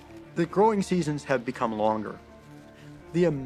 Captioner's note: birds chirping